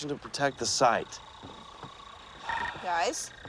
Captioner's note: machine trilling